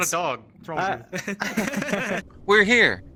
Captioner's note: laughing